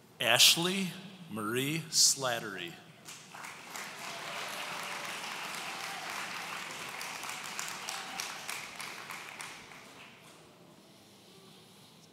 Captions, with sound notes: Ashley Marie Slattery. (audience cheering)